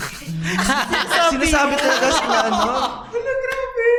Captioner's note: laughs